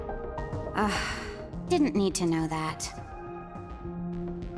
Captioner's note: sigh